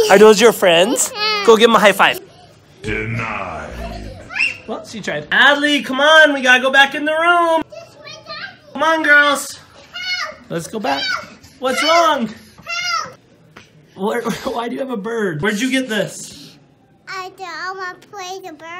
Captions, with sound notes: Are those your friends? Go give 'em a high five. (in a deep voice) Denied. Well, she tried. Adley, come on. We've got to go back in the room. Come on girls, let's go back. What's wrong? Why do you have a bird? Where'd you get this?